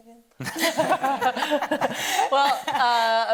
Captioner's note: audience laughing